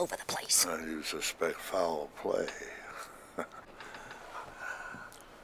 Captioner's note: chuckling